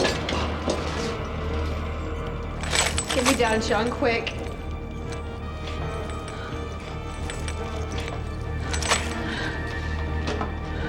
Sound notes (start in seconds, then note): 4.1 chains clanking